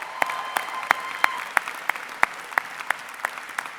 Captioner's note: applause